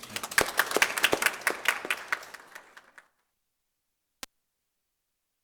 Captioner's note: applause